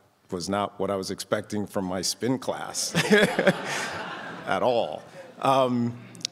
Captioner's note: chuckles